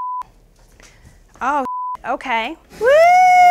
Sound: computer bleeps

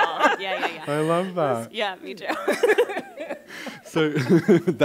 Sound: laughs; all laugh

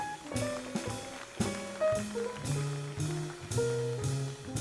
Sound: audience applauds

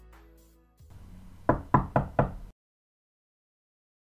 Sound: knock

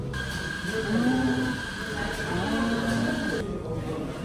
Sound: phone vibration sound with her mouth lol

